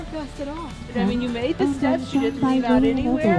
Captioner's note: loudspeaker booming